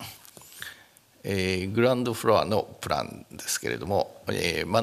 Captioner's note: speaking japanese